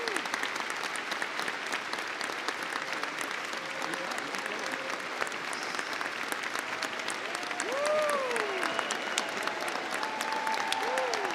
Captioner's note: applause